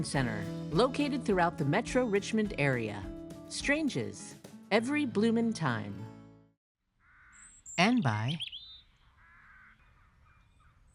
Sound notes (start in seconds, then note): 7.0 bird chirping